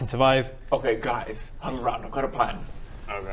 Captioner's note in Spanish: susurrando